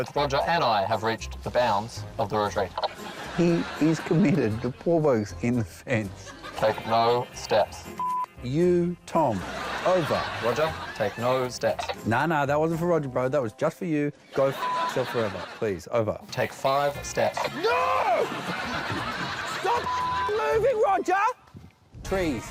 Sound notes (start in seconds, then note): 17.2 yells